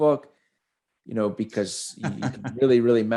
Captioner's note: laughs